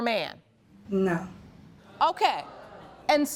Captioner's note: audience reacts